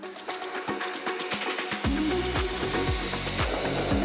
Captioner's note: whirring